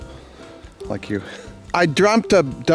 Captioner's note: laughs